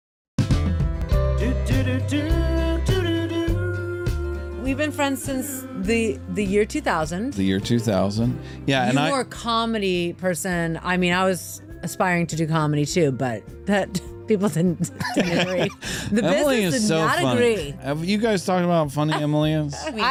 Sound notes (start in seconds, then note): 14.8 laughter